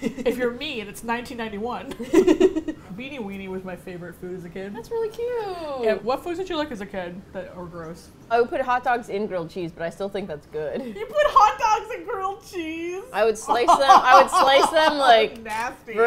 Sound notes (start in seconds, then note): 1.9 both laugh; 10.6 in disbelief; 13.6 laughs hysterically